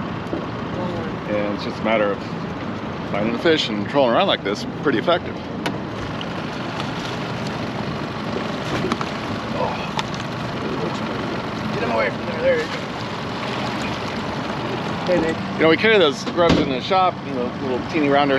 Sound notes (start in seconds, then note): 6.4 boat engine idling; 7.5 fish splashing; 12.7 fish splashing